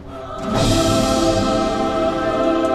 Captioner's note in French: Bruit d'ange